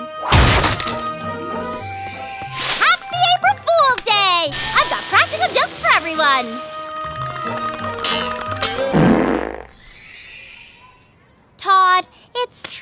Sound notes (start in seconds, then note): 6.1 todd's body chatters from joy buzzer zap; 8.8 whoopee cushion farts